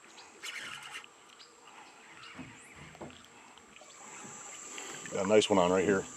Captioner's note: reel cranking